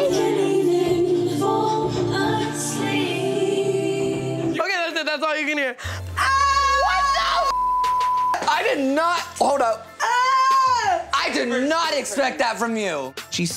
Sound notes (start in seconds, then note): 6.2 screaming; 7.5 beep